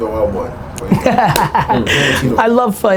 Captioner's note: laughing